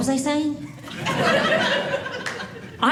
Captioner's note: audience laughing